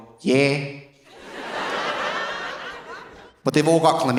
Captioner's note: audience laughing